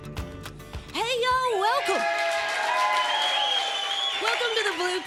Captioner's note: applause